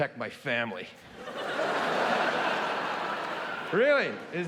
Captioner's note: audience laughing